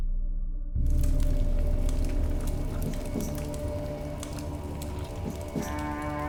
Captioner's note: fire crackling